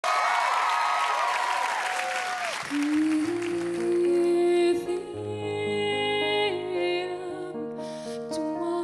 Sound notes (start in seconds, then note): 3.7 cheers and applause